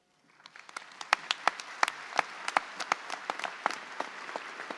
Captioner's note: audience applauds